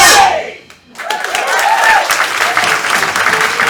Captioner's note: cheering and applause